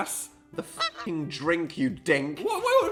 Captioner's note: squawk